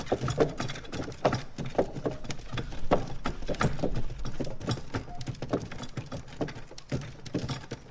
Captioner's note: cart noises fade